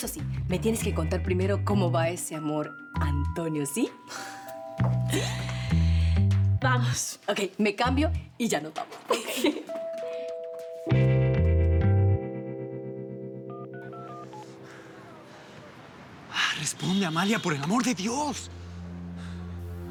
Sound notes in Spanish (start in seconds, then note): 15.6 Sonido al marcar